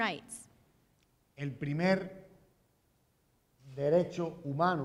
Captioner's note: speaking in Spanish